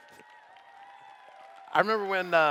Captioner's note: cheers